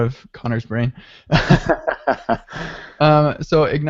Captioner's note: laughing